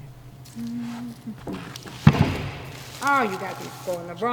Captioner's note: humming